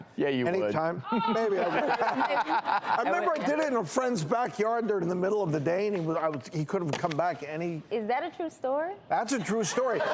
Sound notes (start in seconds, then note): 1.1 laughter